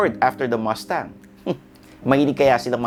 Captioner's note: scoffs